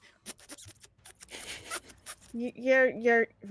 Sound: Neb squeaks

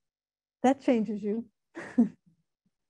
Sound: laughing

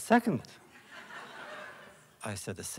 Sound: laughter

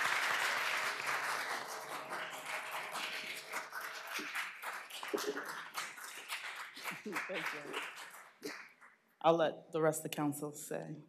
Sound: applause

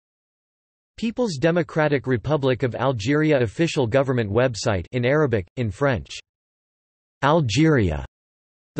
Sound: in Arabic

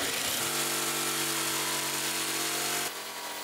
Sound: electric saw noise

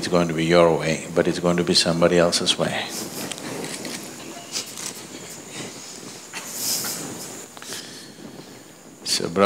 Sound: laughs

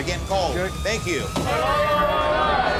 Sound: loud chatter; thump

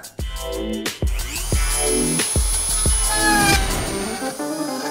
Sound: drilling sound

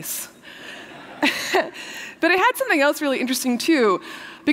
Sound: laughter

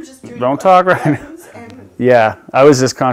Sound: laughs

